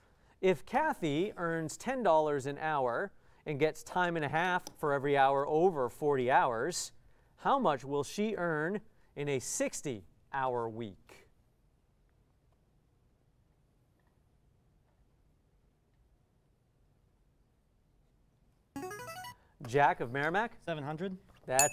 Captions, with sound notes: If Kathy earns $10 an hour and gets time and a half for every hour over 40 hours, how much will she earn in a 60 hour week? [player buzzer] Jack of Merrimack? 700. [ding]